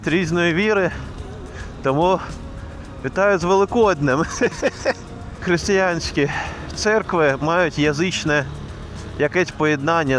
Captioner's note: laughs